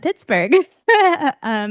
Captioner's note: laughs